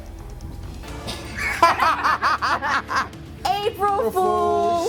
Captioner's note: laughing